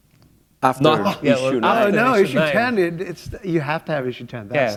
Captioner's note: none